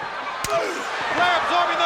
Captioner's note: slap smacks; Flyin' Brian groans